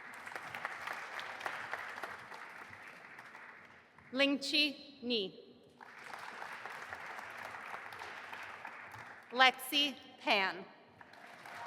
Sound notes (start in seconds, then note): 0.0 audience applauding; 5.8 audience applauding